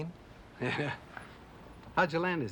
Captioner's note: chuckles